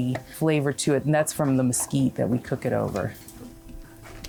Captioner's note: speaks foreign